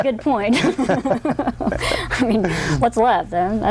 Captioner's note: laugh